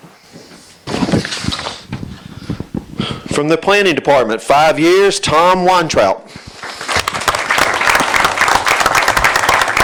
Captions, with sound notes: From the Planning Department, five years, Thom Weintraut. [APPLAUSE]